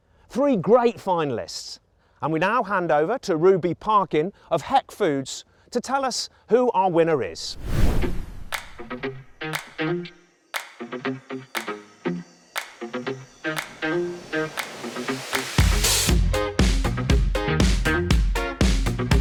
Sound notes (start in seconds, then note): 7.4 air whooshes; 9.4 upbeat music